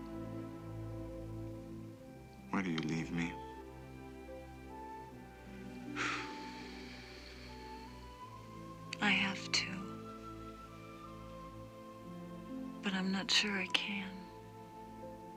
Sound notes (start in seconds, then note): 5.9 exhales sharply